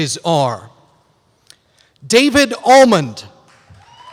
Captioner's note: applause